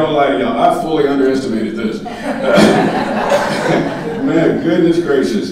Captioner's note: laughing